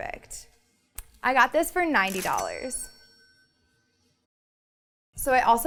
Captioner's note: cash register dings